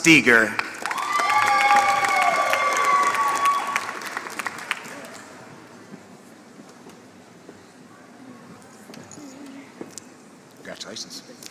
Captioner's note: applause